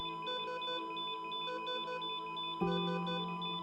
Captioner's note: beeping machinery